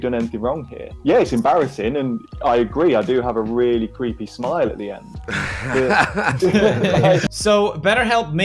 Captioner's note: multiple laughs